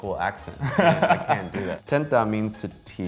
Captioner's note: laughs